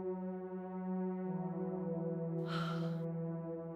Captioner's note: sigh